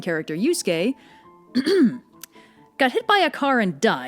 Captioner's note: ahem